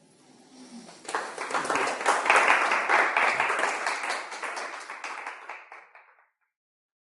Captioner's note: applause